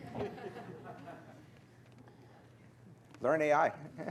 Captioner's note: laughter